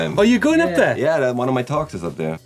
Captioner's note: laughing